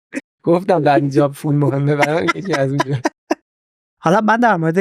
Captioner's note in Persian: خنده